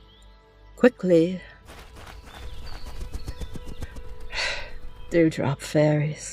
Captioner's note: footsteps and a flutter of wings